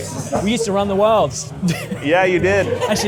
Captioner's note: laughs